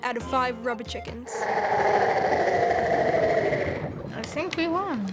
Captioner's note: bowser roars